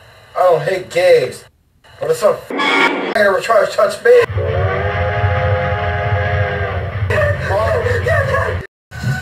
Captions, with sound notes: I don't hate gays, but if some *Train horn censor* ever tries to touch me.... *A&WP 290's whistle*